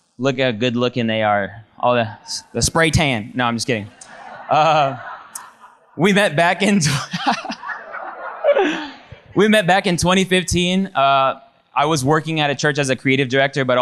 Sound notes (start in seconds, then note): 3.7 audience laughs; 6.7 laughs